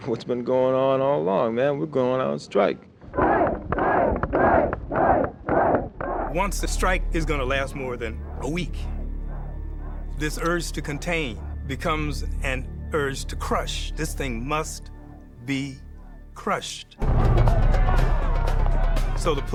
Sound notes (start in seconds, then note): 3.1 crowd; 17.1 tense music